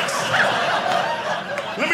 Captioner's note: audience laughing